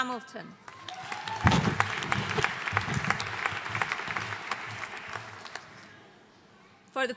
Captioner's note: audience applauding